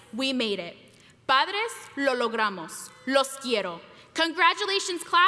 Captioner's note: speaking foreign language